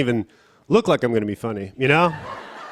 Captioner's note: laughter